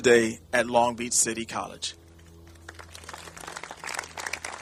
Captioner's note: applauding